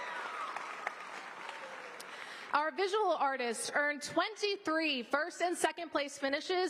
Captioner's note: applause